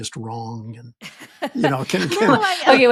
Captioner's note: chuckling